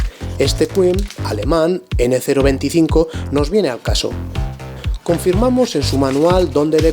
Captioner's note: German